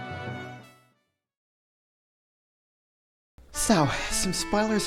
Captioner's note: silence